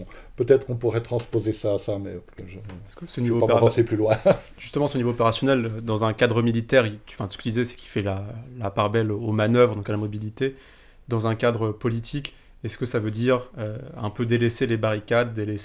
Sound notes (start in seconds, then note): 4.2 laughs